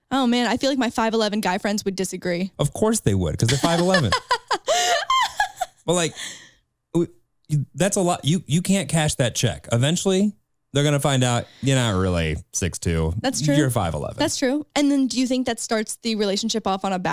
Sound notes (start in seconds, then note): 3.4 laughing